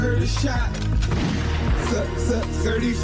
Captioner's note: gunshot